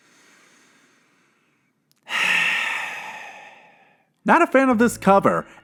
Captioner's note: deep breathing